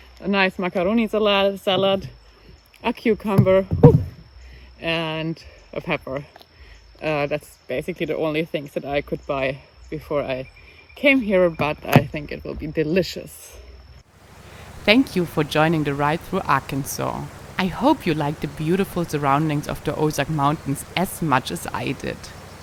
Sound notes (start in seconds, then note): 3.4 cucumber falling